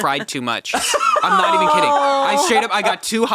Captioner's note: laughing